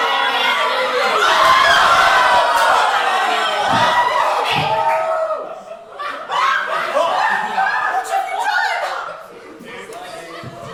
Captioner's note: “she’s behind you!”, followed by screams